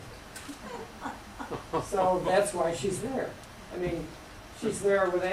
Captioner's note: laughter